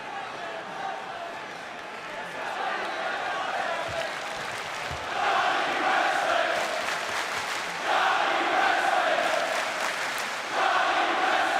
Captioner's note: crowd cheering